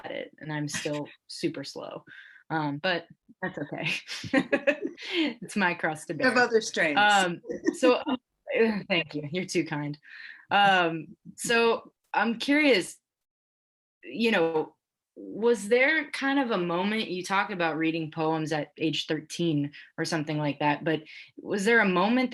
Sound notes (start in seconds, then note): 3.9 women laugh; 7.0 laughs